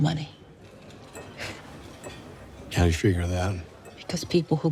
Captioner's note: scoffs